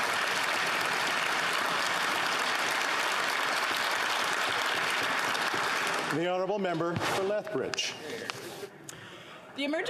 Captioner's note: some Applause